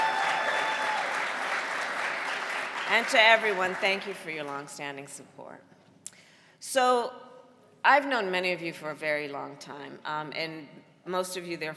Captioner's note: cheering and applause